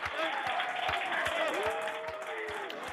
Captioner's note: cheering and applause